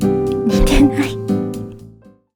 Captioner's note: laughs